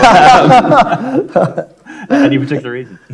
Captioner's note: everyone laughing